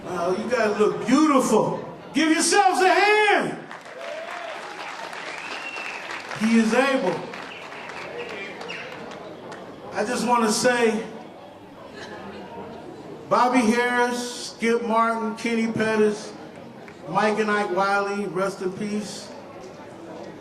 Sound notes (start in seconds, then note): 3.6 applause